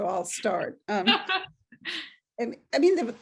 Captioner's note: laughing